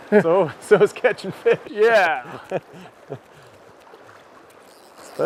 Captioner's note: laughing